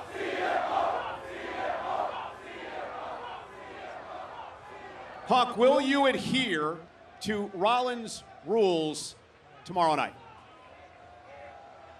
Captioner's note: crowd chanting "cm punk"